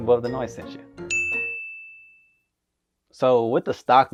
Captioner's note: bell dinging